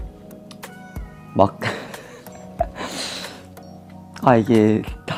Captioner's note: having a good laugh